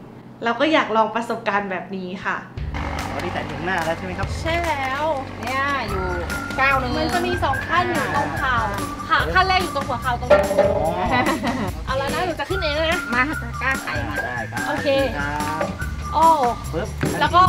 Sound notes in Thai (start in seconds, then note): 10.3 เสียงเคาะไม้; 10.9 เสียงหัวเราะ